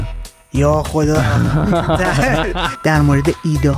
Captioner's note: laughs